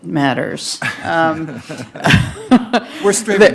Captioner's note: laughing